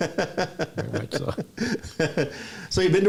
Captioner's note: laughs